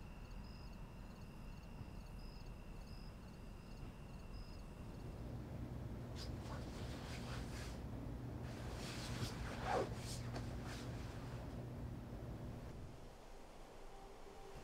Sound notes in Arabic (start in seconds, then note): 8.3 يستنشق; 12.7 الموسيقى الهادئة